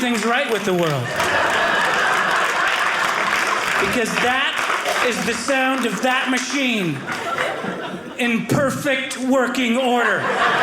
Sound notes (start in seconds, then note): 2.1 audience laughing